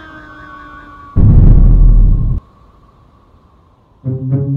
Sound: thud

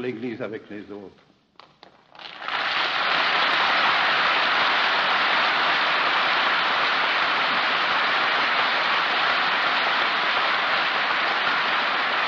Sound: applause

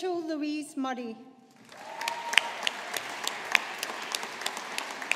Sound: audience applauding

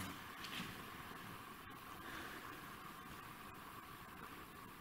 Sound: recording hissing

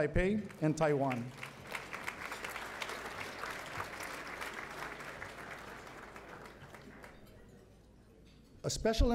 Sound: applause

